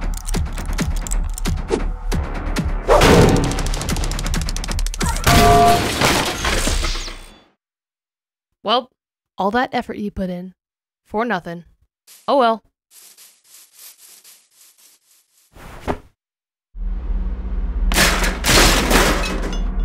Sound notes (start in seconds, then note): 0.0 clacky noises; 5.2 bonk!; 5.5 clattering fall; 17.9 pieces clattering down